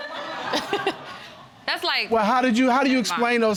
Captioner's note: audience laughing